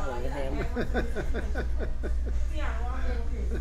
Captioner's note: laughs